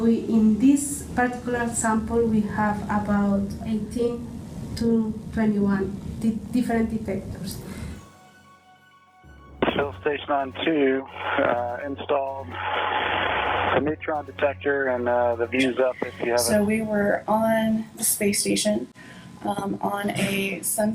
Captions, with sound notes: In this particular sample, we have about 18-21 different detectors. (upbeat music) Space man to install (radio static) the neutron detector and the views up We were on the space station on a sunset hatch